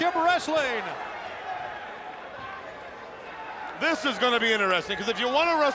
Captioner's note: applause